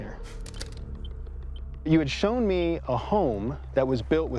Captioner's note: beeping